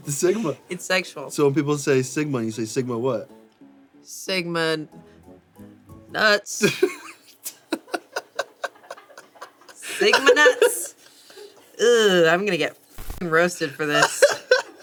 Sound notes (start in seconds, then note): 7.5 everyone laughs; 14.0 laughs